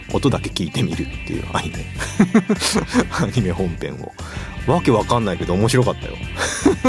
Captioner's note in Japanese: 笑い